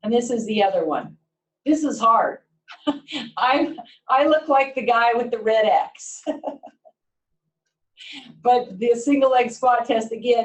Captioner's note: laugher